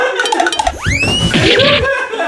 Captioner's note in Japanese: 倒れる音